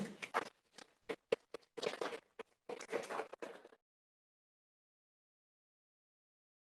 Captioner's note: mic scratching; audience applauding